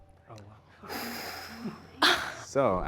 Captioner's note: group gasps